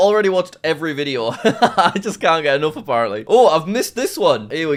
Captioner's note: laughs